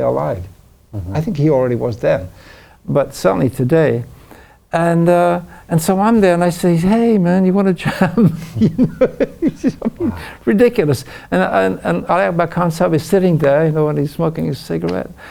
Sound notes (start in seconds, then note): 7.8 laughs